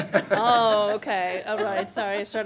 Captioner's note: laughing